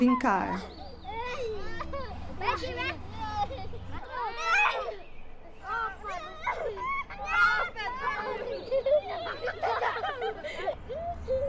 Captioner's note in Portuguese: risos